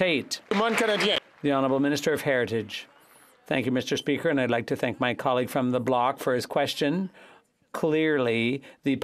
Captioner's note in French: applaudissements